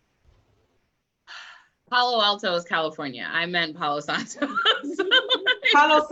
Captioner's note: sighs; laughs